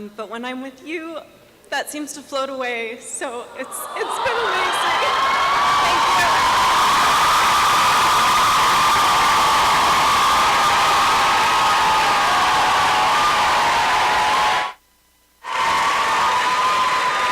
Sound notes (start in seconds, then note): 7.4 applause and cheering